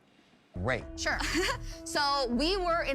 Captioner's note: laughs